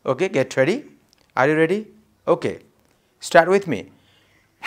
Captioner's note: short sharp exhales